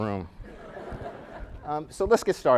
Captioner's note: laughing